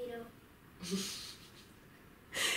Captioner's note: laugh